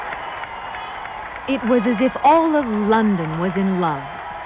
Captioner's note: crowd cheers and applauds